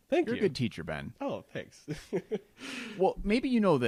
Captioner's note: laughs